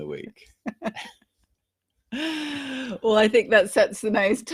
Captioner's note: laughter